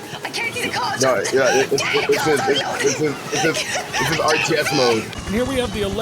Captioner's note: incoherent screaming